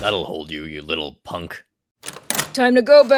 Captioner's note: door opens